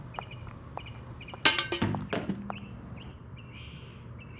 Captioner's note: objects clunks